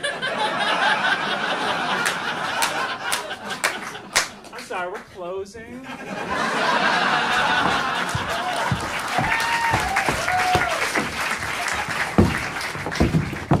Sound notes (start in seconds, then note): 0.0 audience laughing; 6.4 audience applauding